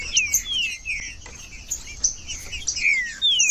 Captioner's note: trinca ferro cantando